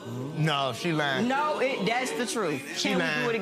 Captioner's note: audience groaning